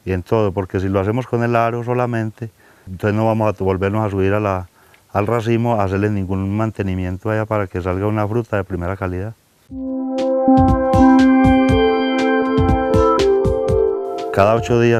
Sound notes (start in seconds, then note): 9.7 sound effects